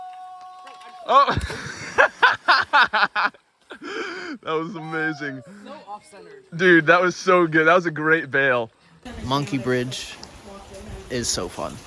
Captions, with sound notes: Oh! (laughing) That was amazing. Dude, that was so good. That was a great bail. Monkey Bridge is so fun.